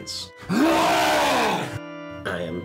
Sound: long wookie roar

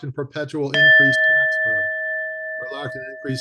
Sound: bell rings

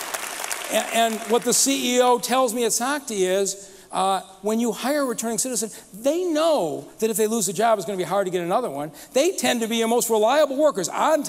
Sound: applause

